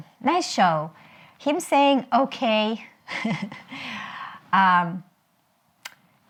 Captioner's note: chuckles